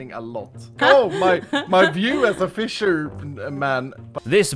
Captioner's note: laughs